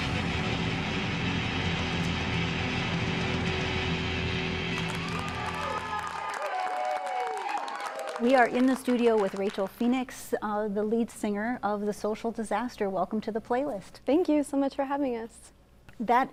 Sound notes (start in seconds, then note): 4.5 cheering and applause